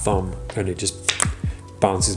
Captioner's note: card popping